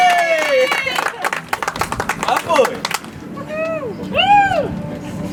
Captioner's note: audience applauds